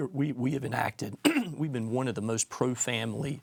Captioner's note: clears throat